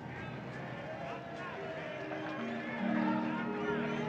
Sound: distant echoing cheers

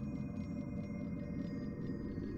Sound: none

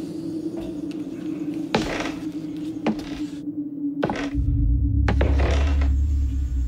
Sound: creaky footsteps

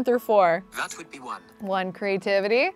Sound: voice On Phone

